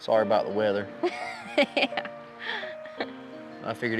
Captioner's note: laughing